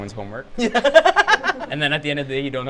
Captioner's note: laughs